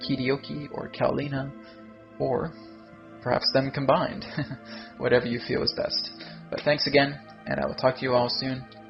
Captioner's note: chuckle